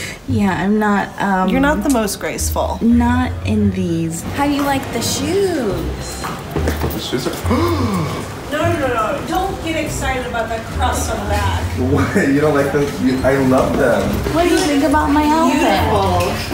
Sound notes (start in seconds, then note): 7.4 gasps